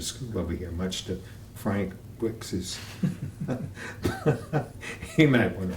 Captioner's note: laughter